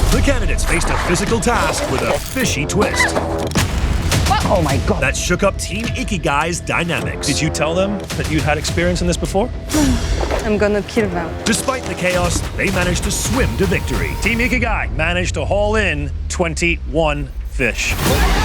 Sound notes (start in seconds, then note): 9.8 sighs